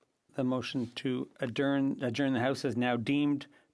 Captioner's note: speaking French